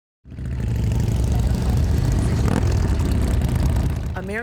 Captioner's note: motorbike rumbling